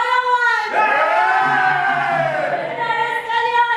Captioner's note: animals cheer